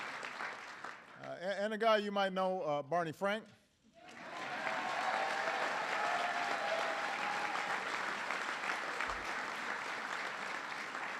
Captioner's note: applause